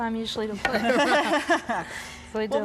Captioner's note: laughs